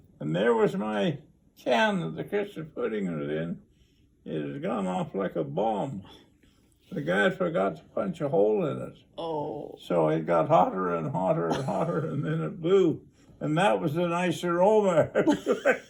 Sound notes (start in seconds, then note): 11.4 interviewer laughs